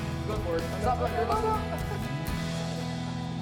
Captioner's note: chatter